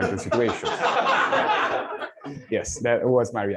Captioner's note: laughter